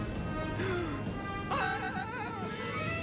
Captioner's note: gasps